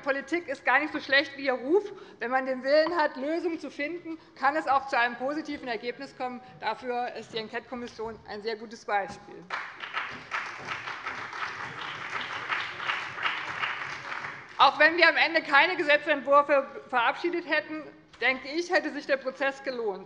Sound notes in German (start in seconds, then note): 9.4 Beifall bei dem BÜNDNIS 90/DIE GRÜNEN und der CDU sowie bei Abgeordneten der SPD